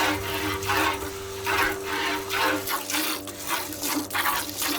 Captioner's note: cow milking noise